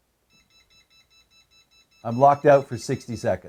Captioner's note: powerbolt beeps continuously